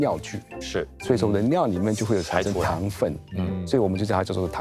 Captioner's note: tang